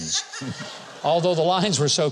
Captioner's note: audience laughs